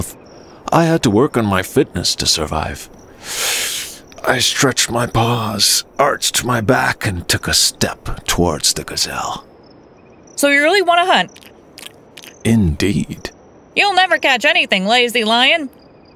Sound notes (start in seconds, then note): 11.3 chewing